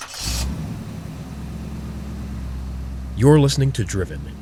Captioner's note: engine revving